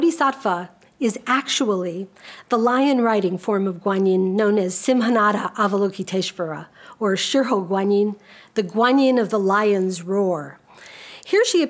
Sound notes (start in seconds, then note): 5.0 speaks a foreign language